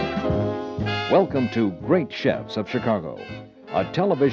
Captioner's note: voiceover